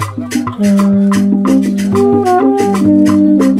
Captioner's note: horn starts